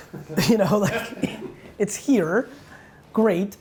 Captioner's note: laughs